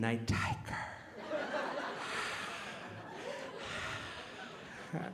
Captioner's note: audience laughing